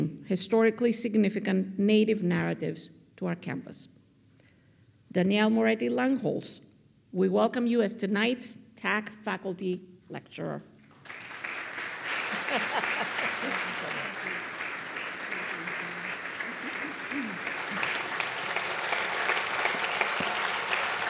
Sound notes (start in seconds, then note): 10.9 audience clapping; 12.3 women murmuring